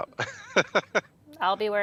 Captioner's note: chuckles